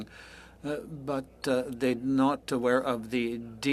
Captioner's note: speaking French